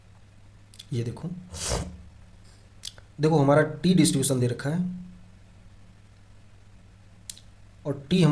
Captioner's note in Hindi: नाक से की जाने वाली आवाज़